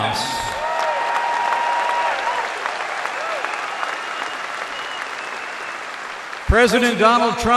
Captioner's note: applause